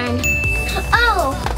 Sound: ding

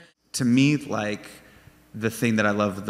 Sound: none

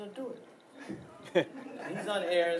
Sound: laughing

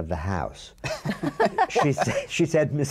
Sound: laughter

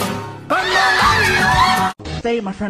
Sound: everyone screams

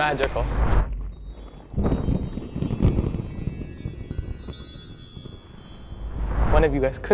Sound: twinkling; thunder cracking

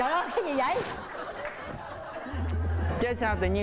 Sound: laughing

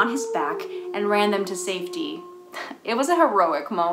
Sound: howling

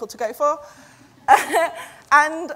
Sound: laughs

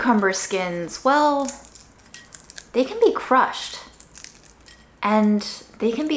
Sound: cucumber skins crunching

